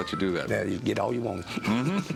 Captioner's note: laughs